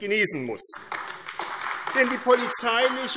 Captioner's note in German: Beifall AfD